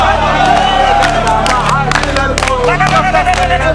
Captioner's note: people chant; people clap